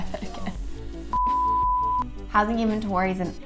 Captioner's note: beep